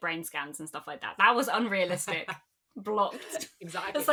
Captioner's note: laughs